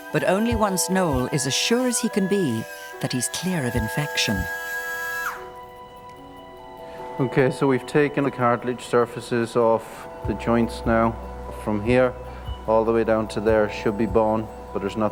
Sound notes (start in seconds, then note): 5.1 surgical saw humming; 6.1 gentle music